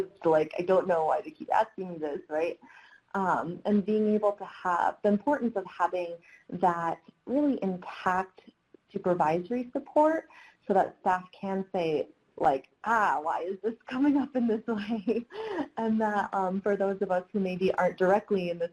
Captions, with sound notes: "I don't know why they keep asking me this," right? And being able to have-- the importance of having that really intact supervisory support so that staff can say, like, "Ah, why is this coming up in this way?" [laughs] And for those of us who maybe aren't directly in the situation